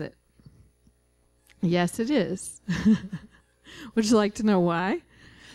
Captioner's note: laughing